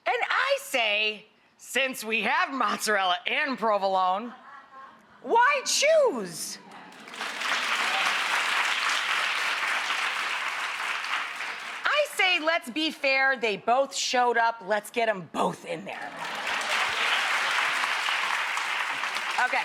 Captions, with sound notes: and I say, since we have mozzarella and provolone, why choose? (audience applauds) I say let's be fair, they both showed up, let's get 'em both in there. (audience applauds)